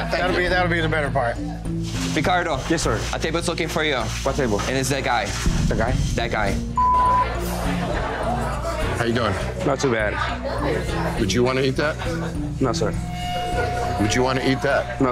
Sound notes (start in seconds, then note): 6.7 beeps; 6.9 bar bustling; 13.0 foreboding zing